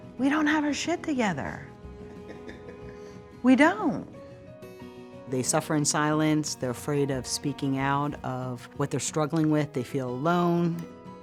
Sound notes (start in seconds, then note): 2.0 chuckling